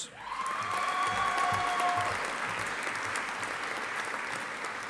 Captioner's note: audience applauding